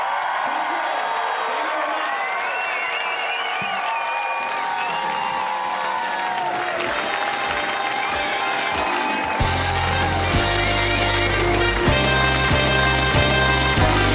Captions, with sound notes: Thank you, thank you very much. (audience applause) (upbeat music)